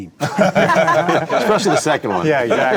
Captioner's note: group laughing